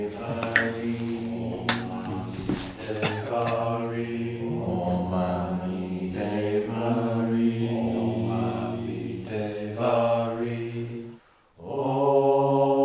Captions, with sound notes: [Chanting in unison] Om ami deva hri, Om ami deva hri.